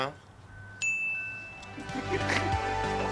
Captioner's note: ding